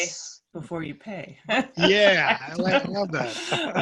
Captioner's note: laugh